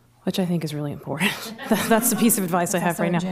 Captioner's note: laughter